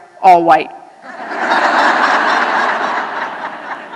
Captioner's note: laughter